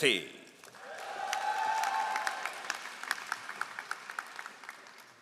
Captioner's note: all applauding